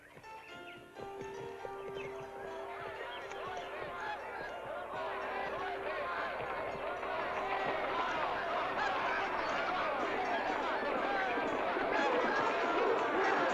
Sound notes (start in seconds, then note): 0.2 soft piano music; 2.0 jovial crowd commotion